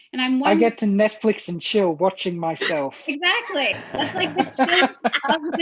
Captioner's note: laughter